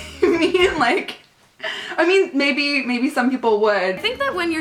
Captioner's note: laughing